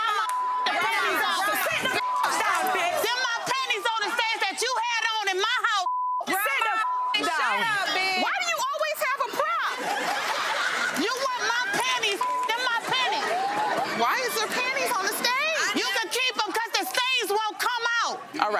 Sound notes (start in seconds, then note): 0.1 beep; 5.8 beep; 10.3 audience laughing; 12.2 beep